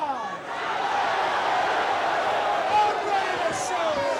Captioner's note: crowd cheering